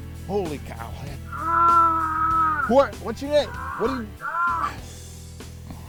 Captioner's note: groaning